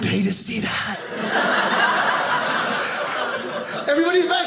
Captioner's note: audience laughing